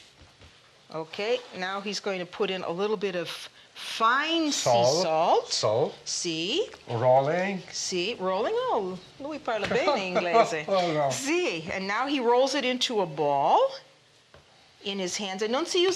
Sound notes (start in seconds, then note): 9.2 speaking Italian; 9.9 laughter